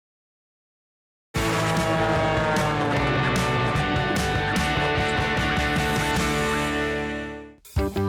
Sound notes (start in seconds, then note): 1.3 upbeat guitar; 1.4 airplane engine